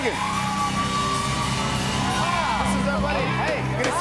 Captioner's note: cheers and applause